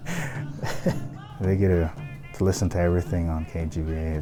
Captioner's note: laughing